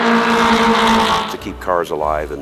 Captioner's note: track Sounds